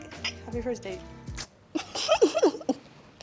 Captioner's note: glass clinking; both laughing